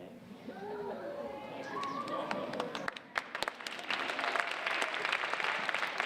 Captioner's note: audience cheering and applauding